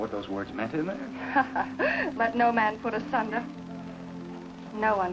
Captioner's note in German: lachen